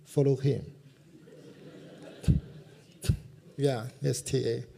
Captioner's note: laughter